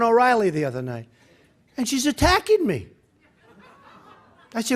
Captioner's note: laughter